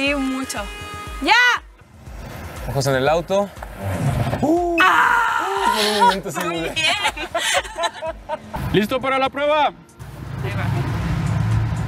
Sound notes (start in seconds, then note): 3.5 car breaking; 4.5 nervous screaming and laughter